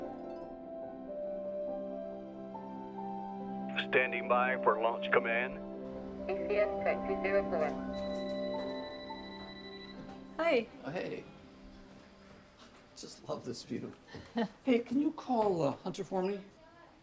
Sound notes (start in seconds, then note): 8.2 phone ringing